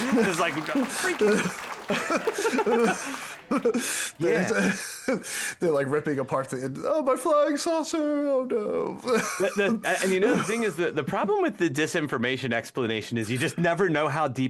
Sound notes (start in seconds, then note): 3.5 laughing